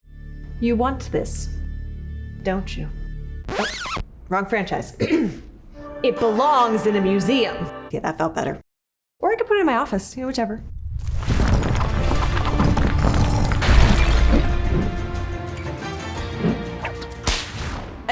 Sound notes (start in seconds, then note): 3.4 record scratches; 5.0 clears throat; 12.0 exciting music